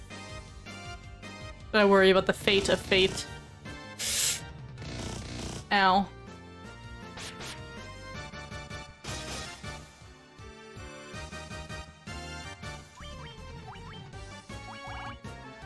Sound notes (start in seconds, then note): 3.9 painful inhale